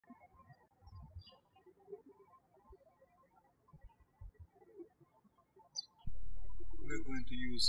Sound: birds chirping

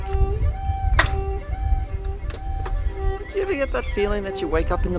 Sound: door creaking

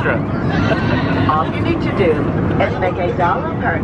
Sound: laughing

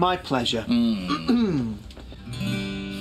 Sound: grumpy groans; Michael clears his throat; guitar chord strums

